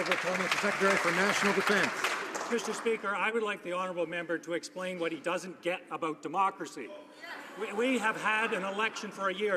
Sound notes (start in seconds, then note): 2.3 some Applause